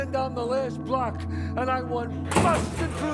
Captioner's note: thuds, rattles